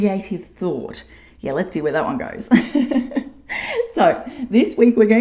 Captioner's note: laughs